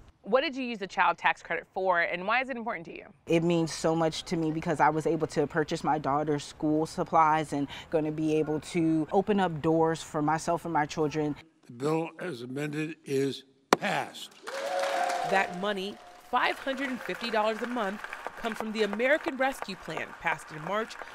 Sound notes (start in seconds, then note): 14.1 cheering and applause